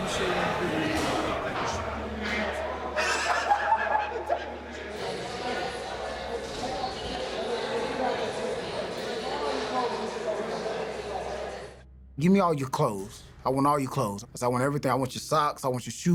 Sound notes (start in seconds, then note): 2.2 laughs